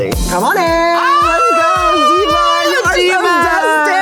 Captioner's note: Bowen wailing